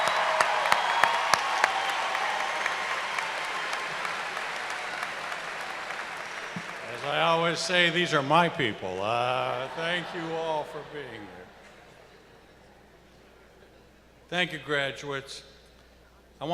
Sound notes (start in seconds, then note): 3.3 cheers and applause